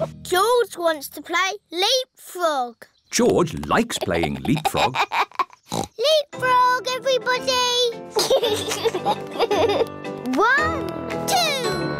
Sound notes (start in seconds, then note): 3.7 laughs; 5.7 oinks; 8.1 all laugh